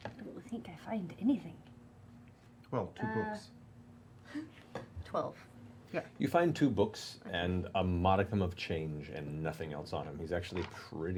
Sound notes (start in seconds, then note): none